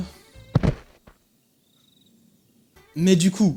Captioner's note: sound of bodies collapsing off-camera